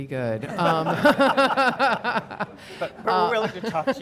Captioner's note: everyone laughing cheerfully